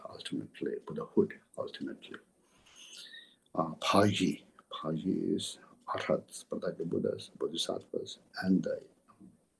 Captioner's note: tibetan